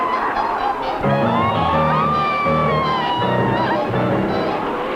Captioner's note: roaring; screaming